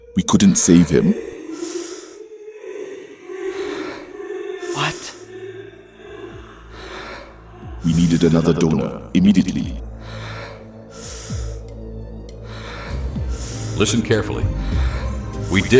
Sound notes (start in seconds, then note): 4.8 echo effect with voices; 12.0 breathing gets faster